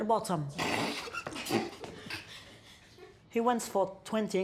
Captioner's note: boys laughing